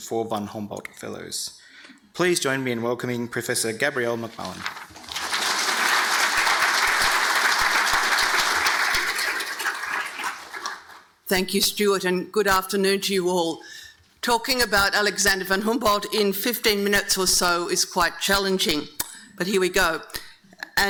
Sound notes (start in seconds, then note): 4.9 audience applauding